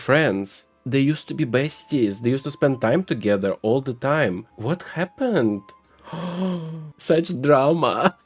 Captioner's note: gasp